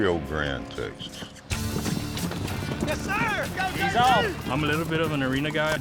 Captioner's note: cowboys cheering